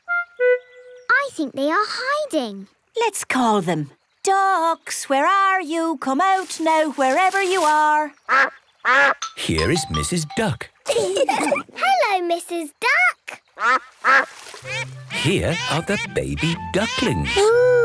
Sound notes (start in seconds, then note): 8.3 quacks; 10.9 all laugh; 14.5 quacks